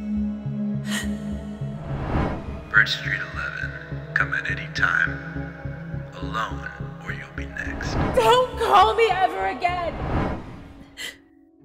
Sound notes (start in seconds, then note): 0.6 May gasps